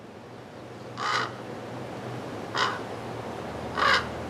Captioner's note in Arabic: زقزقة الغربان